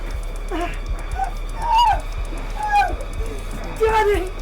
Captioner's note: Sue shrieks